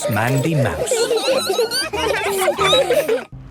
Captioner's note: squeaking; laughter